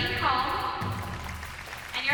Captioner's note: applause